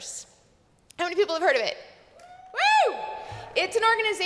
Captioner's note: cheers